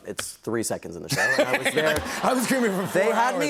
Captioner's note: laughter